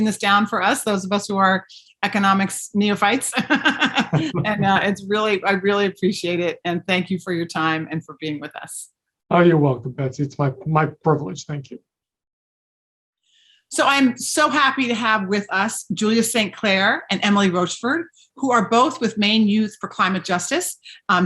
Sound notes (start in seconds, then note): 3.4 laughing